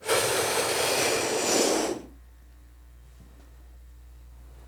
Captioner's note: breathing in and out